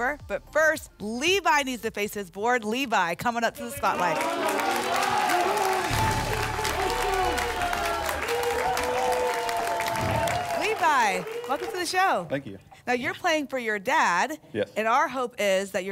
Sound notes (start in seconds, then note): 4.6 applause and cheering